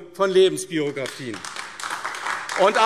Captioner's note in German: Beifall AfD